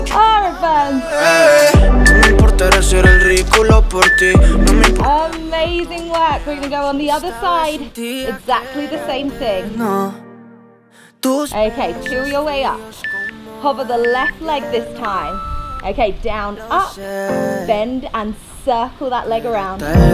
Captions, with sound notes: Oh, it burns. (timer beeping) Amazing work. We go on the other side. Exactly the same thing. Okay, peel your way up. Hover the left leg this time. Okay, down, up, bend and circle that leg around.